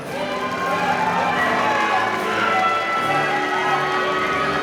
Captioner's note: audience cheering